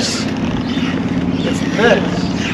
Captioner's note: wheels creaking